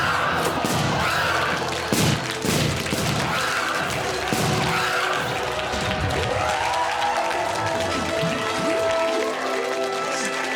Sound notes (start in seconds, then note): 0.4 balloon popping; 1.8 guests screaming